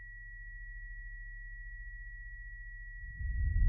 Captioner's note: high-pitch ringing continues; atomic bomb rumbling